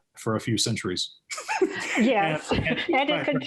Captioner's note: laughs